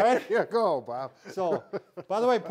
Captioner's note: laughs